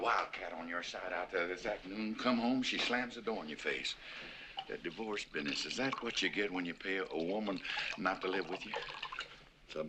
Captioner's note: none